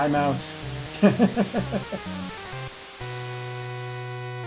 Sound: chuckles

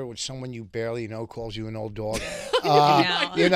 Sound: laughing

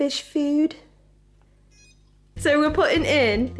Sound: low electronic beep

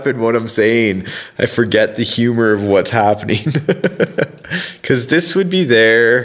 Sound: laughs

